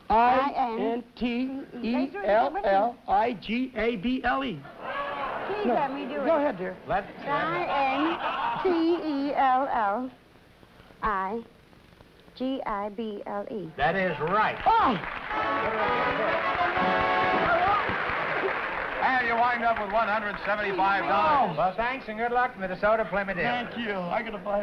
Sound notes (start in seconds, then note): 15.7 applause